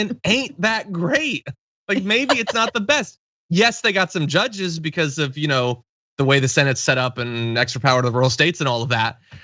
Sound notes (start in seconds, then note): 1.9 laugh